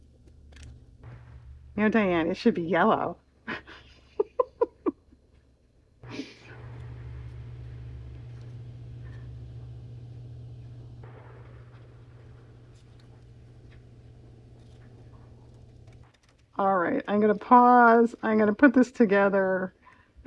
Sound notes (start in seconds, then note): 7.9 laughs